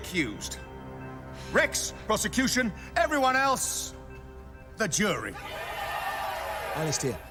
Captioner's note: crowd cheering